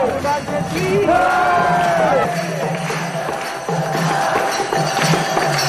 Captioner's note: Applausi